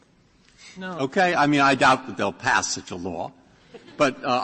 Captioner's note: laughter